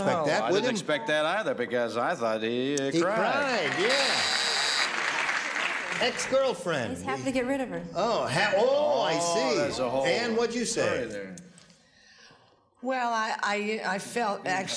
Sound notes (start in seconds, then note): 2.9 buzzer sounds